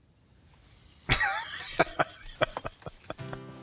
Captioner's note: laughing